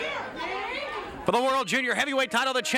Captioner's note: bell rings